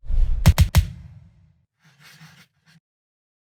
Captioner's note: gunshots